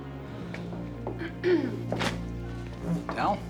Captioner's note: clears throat